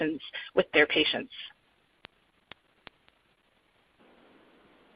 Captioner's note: silence